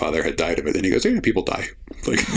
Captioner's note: laughter